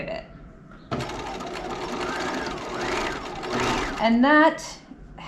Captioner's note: sewing machine whirling